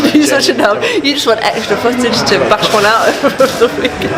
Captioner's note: laughs